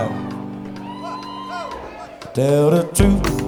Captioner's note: crowd cheering